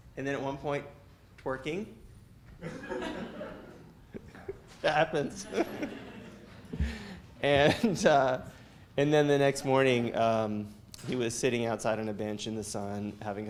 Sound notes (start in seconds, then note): 2.6 students laugh; 5.2 laughs